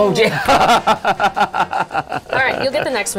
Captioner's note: laughing